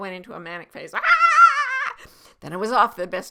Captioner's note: yelling excitedly